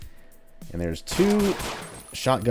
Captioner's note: pew pew pew